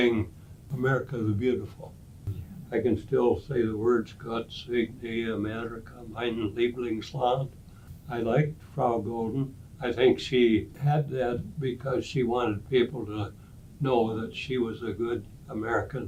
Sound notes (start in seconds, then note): 5.0 speaking German